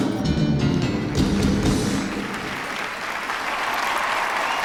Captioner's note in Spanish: Aplausos; Gritos y exclamaciones